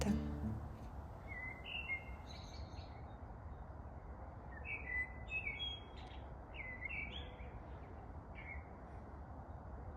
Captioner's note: unreal singing of birds